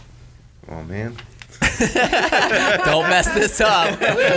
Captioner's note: everyone laughs